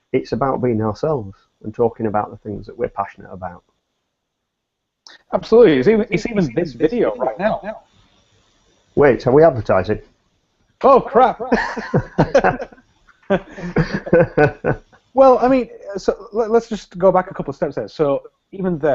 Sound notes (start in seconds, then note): 13.2 both laugh